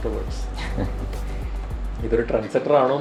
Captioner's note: subtle laughter